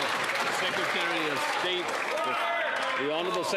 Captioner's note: applause